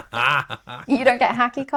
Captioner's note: laughing